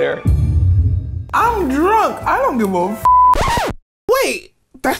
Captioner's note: beep